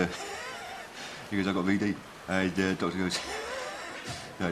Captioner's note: laughs